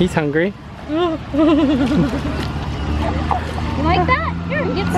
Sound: whimpers

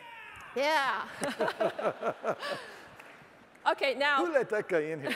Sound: laughs

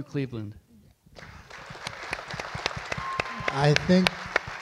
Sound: audience applauds

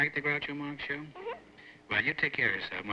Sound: on phone

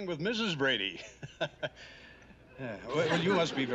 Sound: chuckling

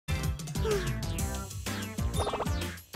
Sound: sigh

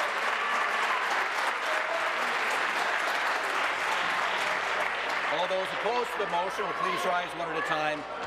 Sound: applause; applause and cheering

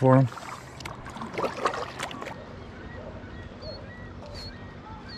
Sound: water lapping

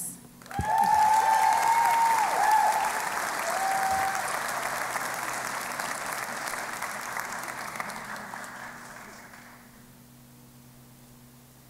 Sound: cheering and Applause

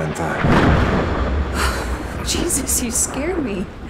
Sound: thunder cracking

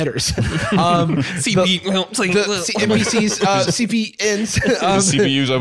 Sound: stammering

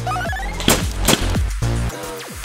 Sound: blows

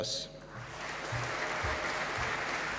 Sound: applause

